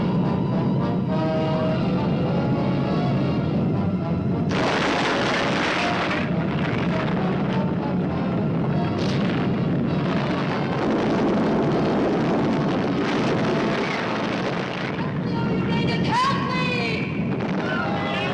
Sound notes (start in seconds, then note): 0.0 suspenseful orchestral music; 4.7 explosion booming